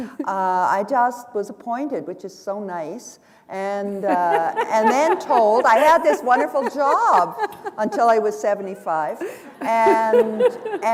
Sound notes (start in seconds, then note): 3.9 laughter; 10.7 chuckle